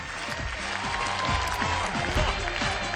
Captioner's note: applause, theme music